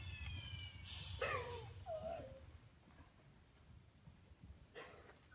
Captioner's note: sobbing